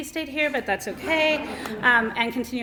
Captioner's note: laughter